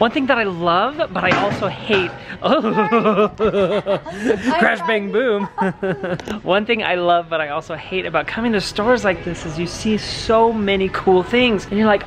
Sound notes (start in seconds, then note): 2.4 grunting